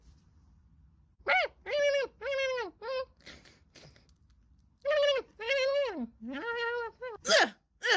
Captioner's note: random creature noises